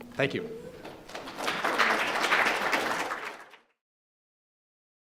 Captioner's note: applause